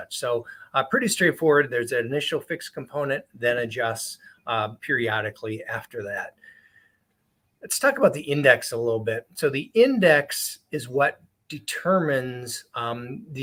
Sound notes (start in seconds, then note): none